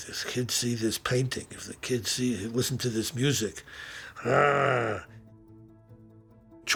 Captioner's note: growling noise